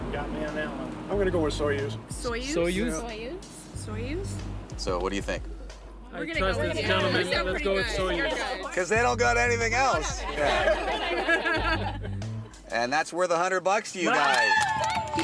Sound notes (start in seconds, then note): 9.5 laughing